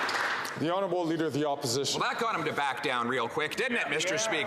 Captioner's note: some Applause